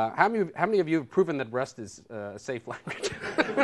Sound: laughter; laughing

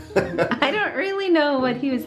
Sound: laughs

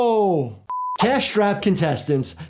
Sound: mouse clicks; SMPTE color bar test beeps

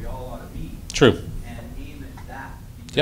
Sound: voiceover

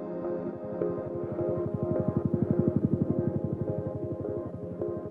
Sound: helicopter whirring

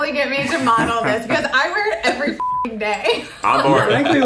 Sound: beep

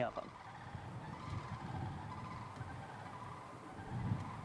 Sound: bird sounds

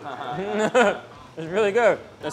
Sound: speaks in foreign language; laughs

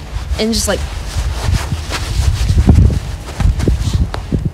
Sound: jacket rustling

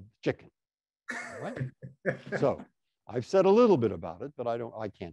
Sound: laughter

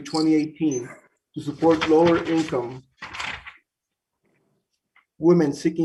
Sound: paper rustles

